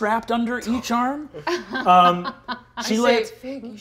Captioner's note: laughing